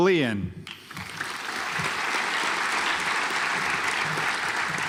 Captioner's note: audience applauds